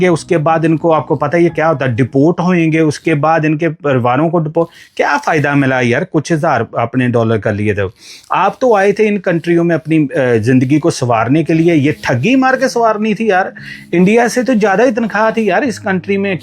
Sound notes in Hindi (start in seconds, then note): 8.4 नाक से की जाने वाली आवाज़